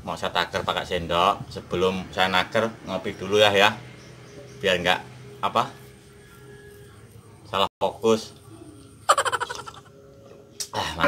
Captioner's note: laughs